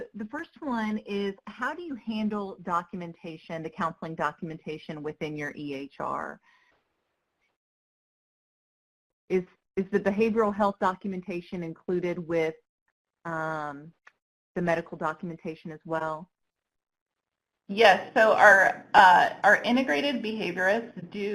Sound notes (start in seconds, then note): 6.3 silence